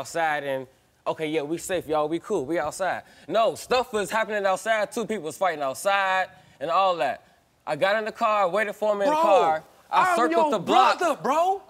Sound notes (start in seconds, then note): none